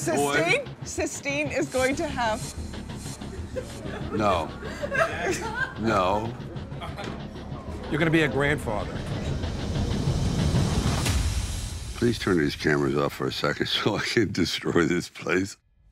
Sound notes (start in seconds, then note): 3.2 group laughing